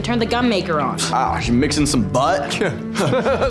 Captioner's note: laughing